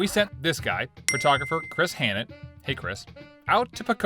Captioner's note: bell dings